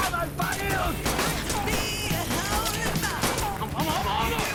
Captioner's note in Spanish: Disparos